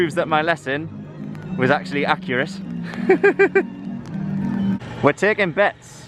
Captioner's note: laughter